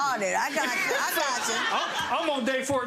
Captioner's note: laughing